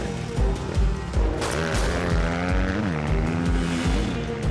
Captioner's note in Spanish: Disparos